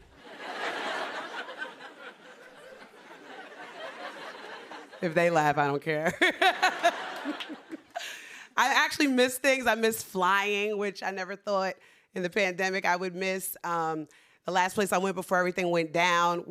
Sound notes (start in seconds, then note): 0.1 laughter; 6.2 laughs